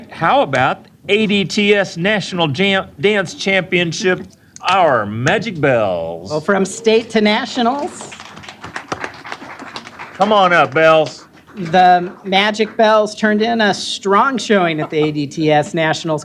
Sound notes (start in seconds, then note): 7.6 applause